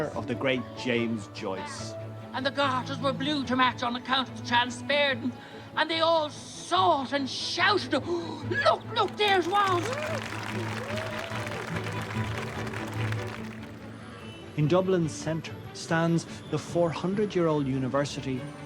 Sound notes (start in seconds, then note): 8.1 gasps; 9.0 applause; 14.7 voice-over